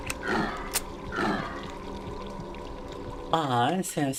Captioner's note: grunting